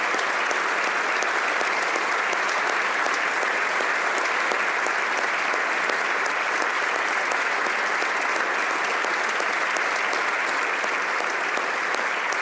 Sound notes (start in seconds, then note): 1.6 applause